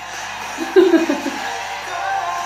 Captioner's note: hysterical laughing, part 4